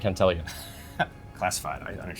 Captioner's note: laughs